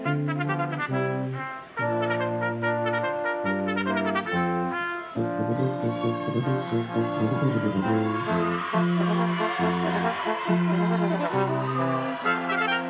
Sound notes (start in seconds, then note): 0.0 triumphant music continues; 5.6 crowd chattering